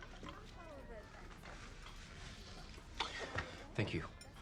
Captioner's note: indistinct chatter